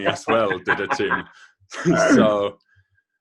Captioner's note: laughing